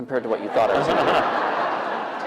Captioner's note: laughter